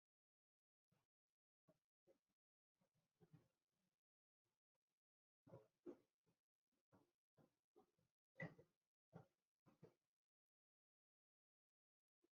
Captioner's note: video continues playing, without audible sound